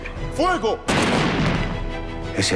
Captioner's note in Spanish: Disparos